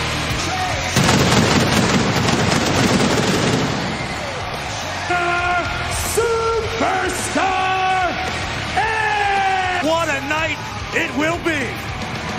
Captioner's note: explosion